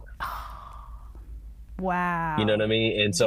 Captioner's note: gasps